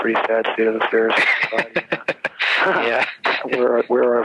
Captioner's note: laughs